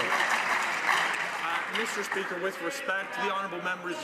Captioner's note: some Applause